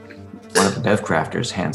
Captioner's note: bev-crafter spits